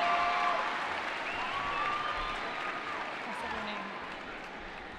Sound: cheering

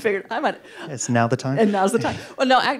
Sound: laughs

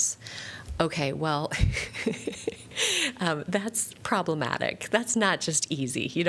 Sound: laughter

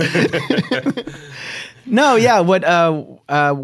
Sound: laughter

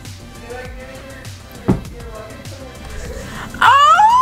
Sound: distant talking; laughing

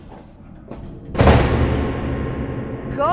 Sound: door slam

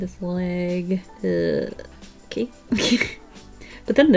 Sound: giggles

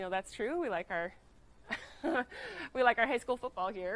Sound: laughing

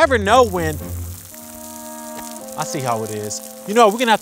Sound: starts raining

